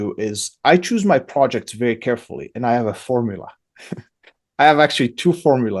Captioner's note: laughs